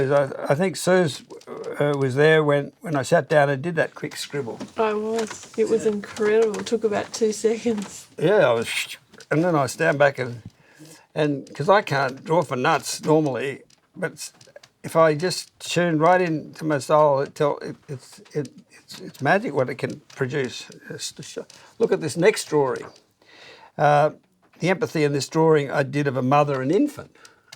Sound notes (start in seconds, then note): 8.6 sound of scribbling